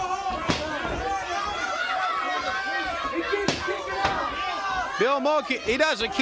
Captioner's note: crowd cheering